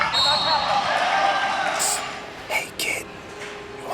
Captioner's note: crowd cheers; whistle blows